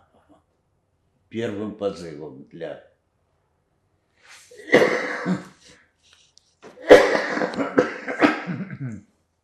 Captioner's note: coughing